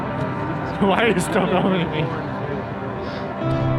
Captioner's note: laughs